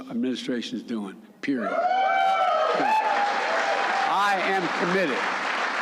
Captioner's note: applause